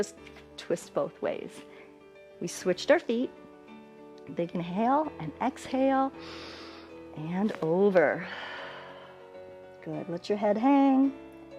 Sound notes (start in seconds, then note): 8.2 exhales